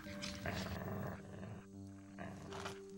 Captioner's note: growling